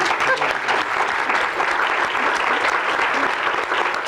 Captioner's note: applause